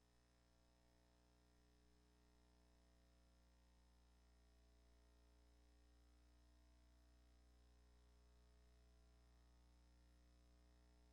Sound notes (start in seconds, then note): none